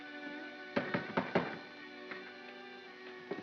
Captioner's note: knocking on door